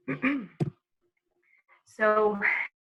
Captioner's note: clears throat